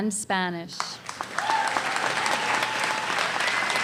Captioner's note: applause